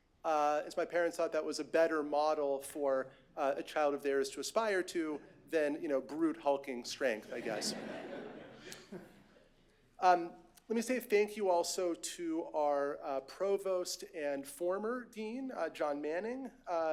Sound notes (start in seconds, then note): 7.3 laughter